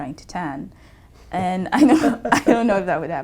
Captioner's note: laugh